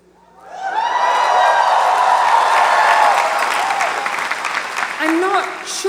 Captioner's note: audience applauds and cheers